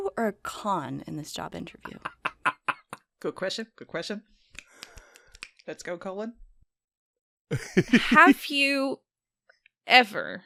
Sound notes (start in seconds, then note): 1.8 laughter; 4.6 snaps